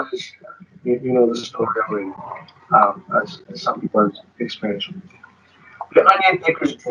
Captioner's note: speaking distorted